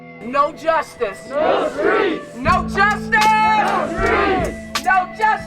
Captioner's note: chants